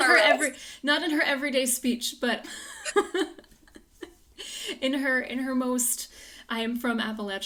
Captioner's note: laughs